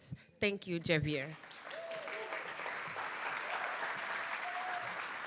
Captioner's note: attendees applauding